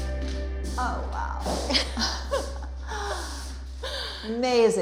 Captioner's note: laughing